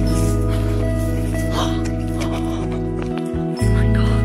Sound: gasps

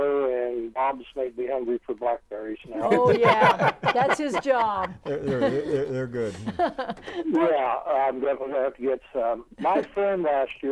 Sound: laughing

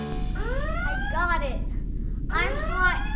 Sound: alarm sounding

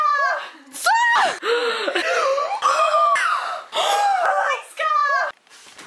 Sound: gasping intensively in Spanish

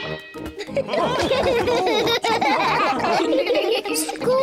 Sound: all giggle; laughs; giggling

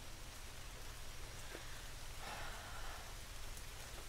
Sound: sighs

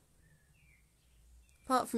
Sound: birds chirping

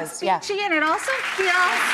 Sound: audience applauding

